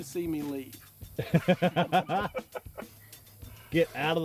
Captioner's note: laughter